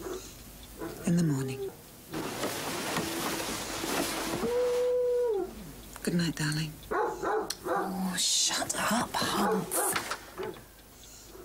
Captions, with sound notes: - Well, in the morning. (dog howling) Goodnight, darling. - Oh shut up, Humpf.